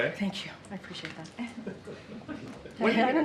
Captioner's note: laughter